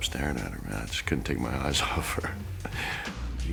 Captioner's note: laugh